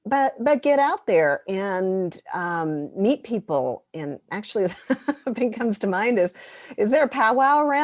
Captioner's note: laughter